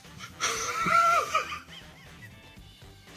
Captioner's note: laughing